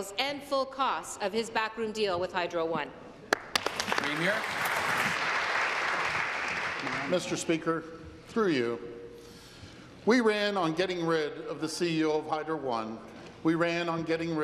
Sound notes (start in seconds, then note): 6.2 applause